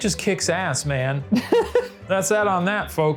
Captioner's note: laughing